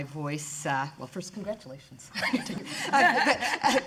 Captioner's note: laughs